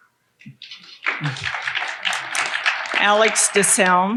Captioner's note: audience applauding